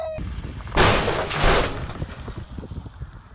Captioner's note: crashing